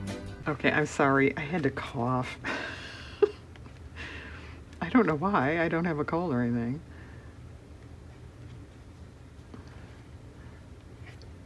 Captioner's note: laughs